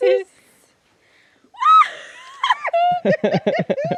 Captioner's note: women speaking in foreign language; laughing